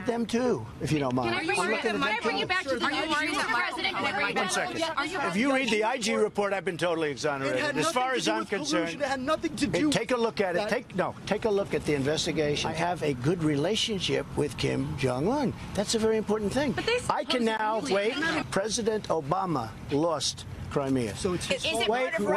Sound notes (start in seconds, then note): 8.9 shouting questions